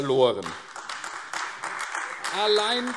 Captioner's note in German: Beifall AfD